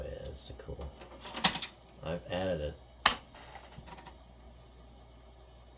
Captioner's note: sound of inserting a diskette